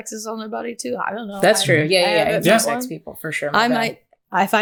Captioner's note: none